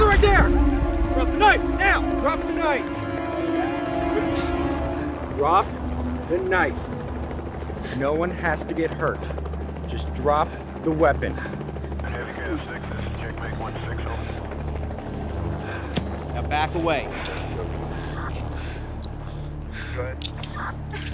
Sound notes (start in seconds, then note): 0.0 suspenseful music; 4.2 intense music; 11.2 helicopter buzzing; 12.0 faint police radio chattering; 20.1 cuffs cranking